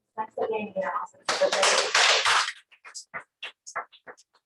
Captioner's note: applause